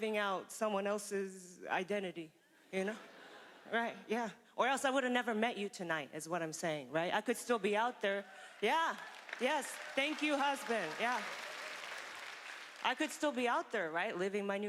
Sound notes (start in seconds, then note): 11.4 applause